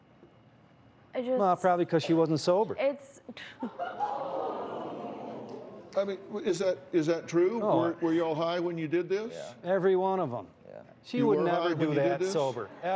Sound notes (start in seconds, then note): 3.8 audience oohs